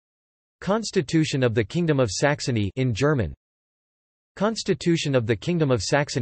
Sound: in German

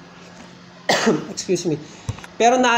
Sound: coughs

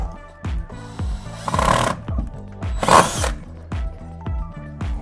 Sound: drilling sound

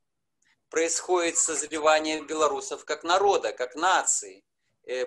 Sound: speaking foreign language

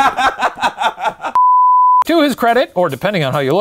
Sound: laughing; beep

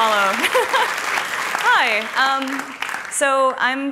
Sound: applause and cheers; laughs

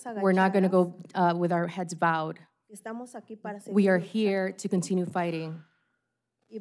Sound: speaking spanish

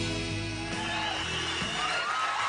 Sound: audience cheering

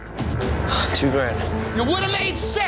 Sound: sighs

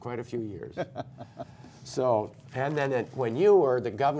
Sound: laughter

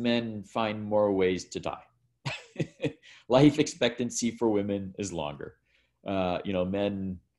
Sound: laughs

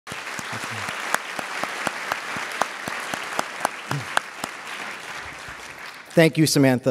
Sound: applause

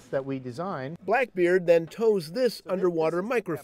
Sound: voiceover

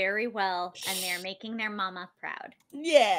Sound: sighs; inhales sharply

